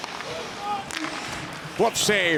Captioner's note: sticks clatter